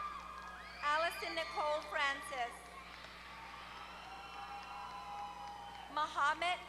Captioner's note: applause